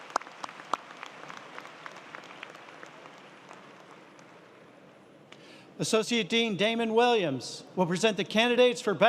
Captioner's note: applause